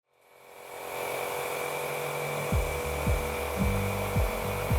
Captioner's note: sprayer buzzing